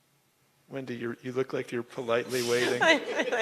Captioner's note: laughter